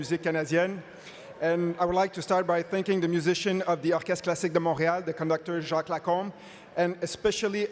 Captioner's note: speaking French